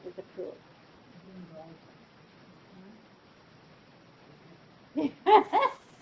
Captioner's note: student speaking off mic; laughs